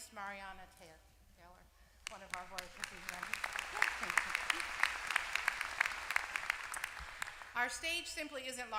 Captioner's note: applause